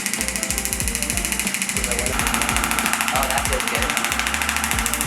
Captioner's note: machine vibrating